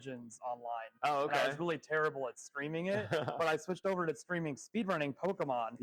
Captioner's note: laughs